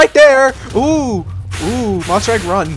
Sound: explosions; more explosions

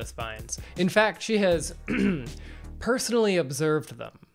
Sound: ahem

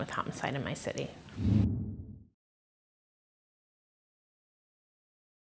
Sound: graphic whooshing

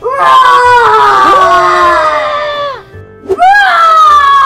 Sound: screaming

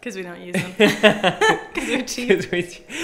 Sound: both laughing

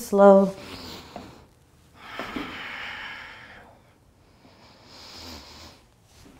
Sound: breathing

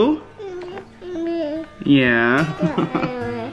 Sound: babbles

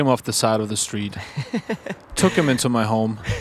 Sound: laughs

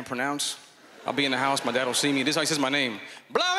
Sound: laughter

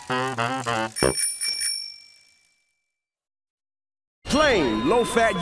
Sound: bells jingle

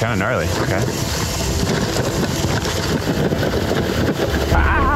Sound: bike rumbling

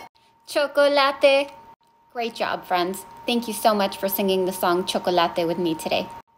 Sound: speaks

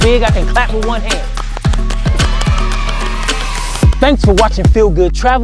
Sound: kids cheering; clapping

